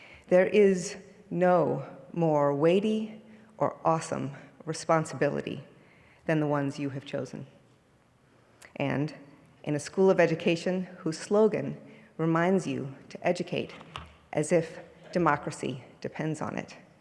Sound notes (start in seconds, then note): none